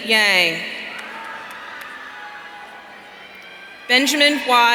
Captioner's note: audience cheering